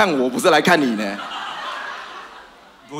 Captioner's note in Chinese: 哈哈哈